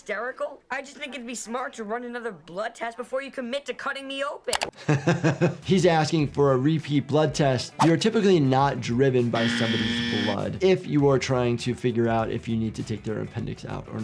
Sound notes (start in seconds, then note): 4.8 doctor laughs